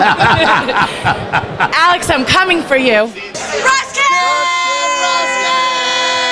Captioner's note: laughter